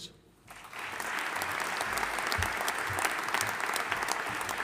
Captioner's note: audience applauding